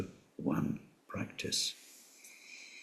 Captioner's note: tibetan